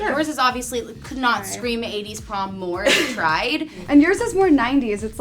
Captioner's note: laughs